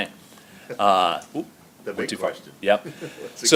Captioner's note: laughs